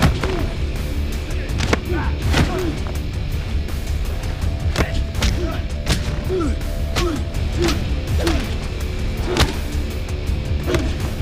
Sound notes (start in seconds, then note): 4.0 grunting; 4.2 fists thudding